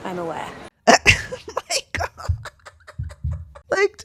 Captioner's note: laughter